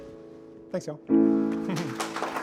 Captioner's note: contestants clapping; chuckles